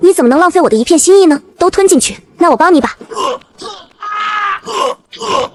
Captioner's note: choking sounds